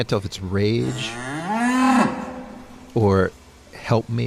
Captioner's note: agitated moo